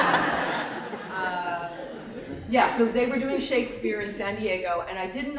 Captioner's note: laughter